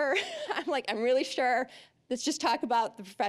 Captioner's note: laughing